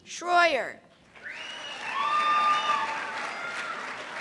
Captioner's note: cheers and applause